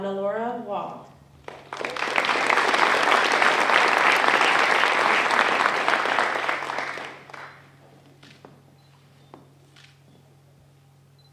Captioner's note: applause